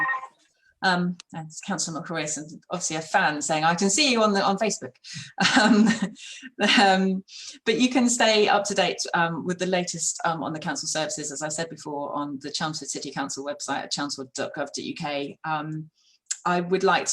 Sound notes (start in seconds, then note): 0.0 phone rings; 1.0 laughter